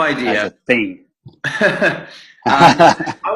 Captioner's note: laughs